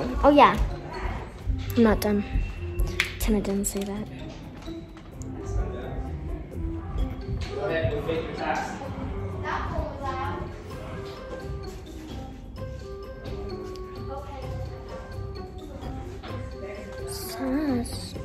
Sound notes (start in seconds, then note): none